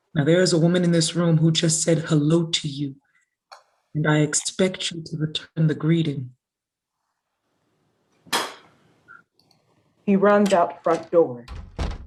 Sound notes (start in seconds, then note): 8.6 spits